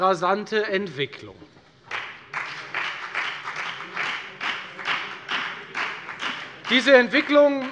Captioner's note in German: Beifall bei der FDP und bei Abgeordneten der CDU